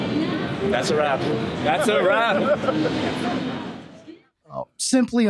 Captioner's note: laughing